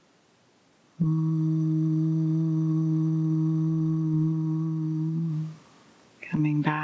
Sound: humming sound

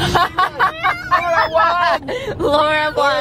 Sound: both laugh

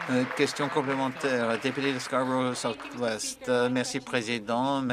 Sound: applause

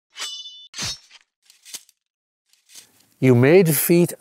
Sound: sword slashing

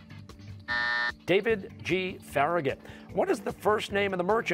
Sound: buzzer

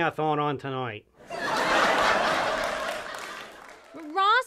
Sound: audience Laughter

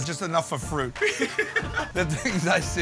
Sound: laughter

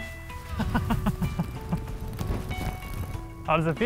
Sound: laughs

